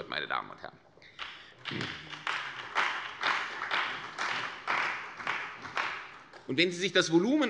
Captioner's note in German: Beifall bei der CDU und dem BÜNDNIS 90/DIE GRÜNEN